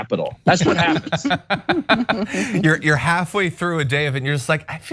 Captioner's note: laugh